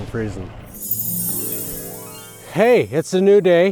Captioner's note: magical chimes ringing